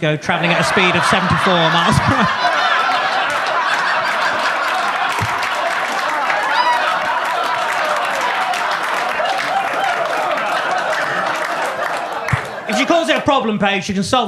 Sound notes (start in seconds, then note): 2.4 audience claps; 2.4 audience laughs